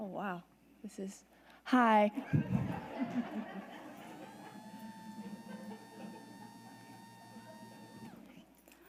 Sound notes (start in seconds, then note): 2.2 audience laughs